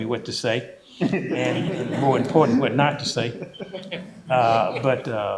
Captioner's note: laughter